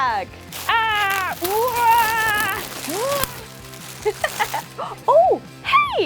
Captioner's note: laugh